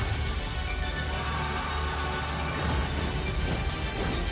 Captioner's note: screams